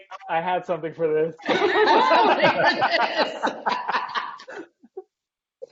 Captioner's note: laughing